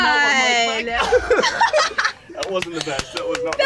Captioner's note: laughing